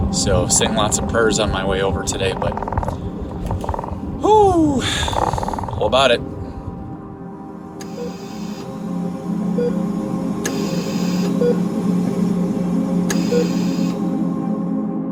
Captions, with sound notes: SO SAYING LOTS OF PRAYERS ON MY WAY OVER TODAY, BUT... OOH... WE'LL ABOUT IT. (MONITOR BEEPING)